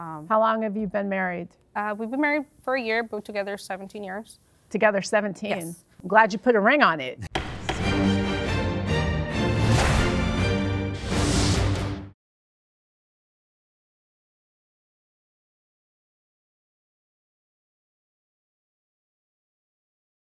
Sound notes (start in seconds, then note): 7.2 upbeat music; 7.3 gavel pounding